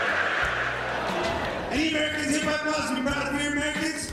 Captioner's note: laughter